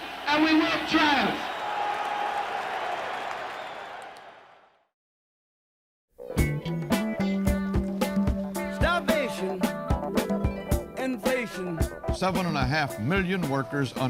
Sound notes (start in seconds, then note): 1.8 crowd cheers and applauds